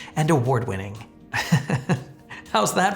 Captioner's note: laughing